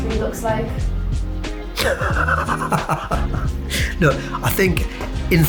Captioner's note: laughs